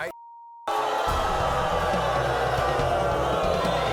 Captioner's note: booing